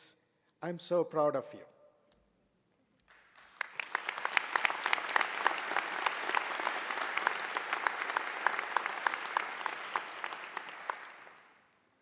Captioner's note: applause